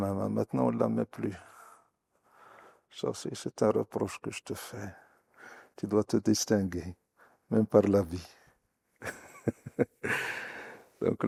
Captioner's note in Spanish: risas